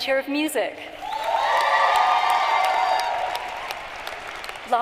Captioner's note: cheering and applause